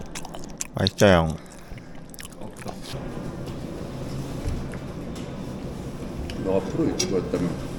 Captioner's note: asmr